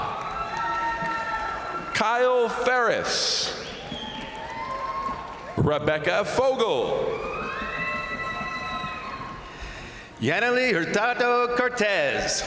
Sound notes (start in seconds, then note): 0.0 crowd applauding; 0.0 crowd cheering; 3.7 crowd applauding; 3.7 crowd cheering; 7.2 crowd applauding; 7.2 crowd cheering